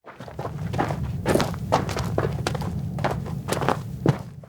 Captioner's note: footsteps